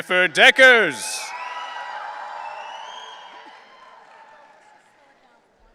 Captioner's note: audience cheering